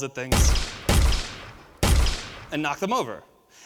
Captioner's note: gun firing